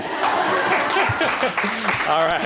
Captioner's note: applause